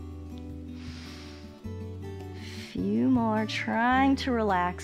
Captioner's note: inhales